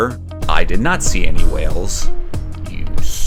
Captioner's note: muttering